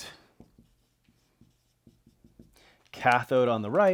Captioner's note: pen scratching